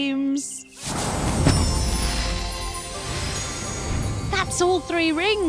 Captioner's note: magical whoosh